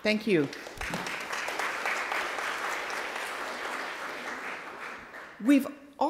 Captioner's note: applauding